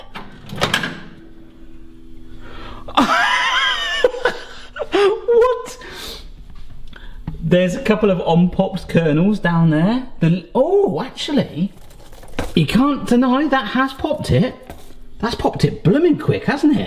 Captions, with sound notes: (Laughs) What? There's a couple of unpopped kernels down there. Ohh actually, you can't deny that has popped it. That's popped it blooming quick, hasn't it?